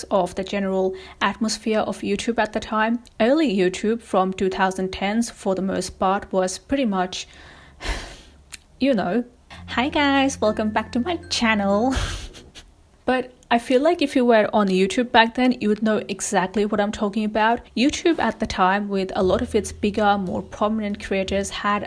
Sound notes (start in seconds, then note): 8.0 sighs; 11.9 laughs